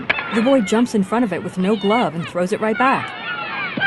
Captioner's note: kids yelling